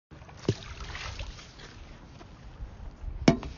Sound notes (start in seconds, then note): 0.4 splooosh